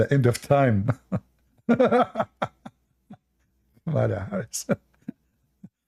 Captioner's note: Ketawa